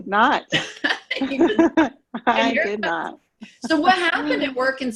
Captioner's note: both giggle